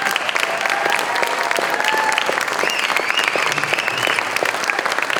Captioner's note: applause continues, audience cheers, whistles